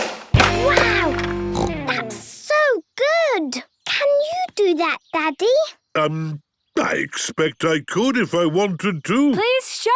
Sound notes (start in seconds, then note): 1.4 snorts